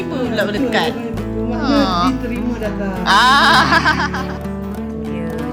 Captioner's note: laugh